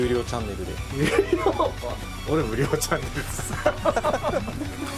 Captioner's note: laughs